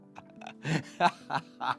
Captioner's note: laughing